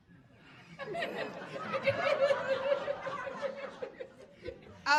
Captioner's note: audience laughing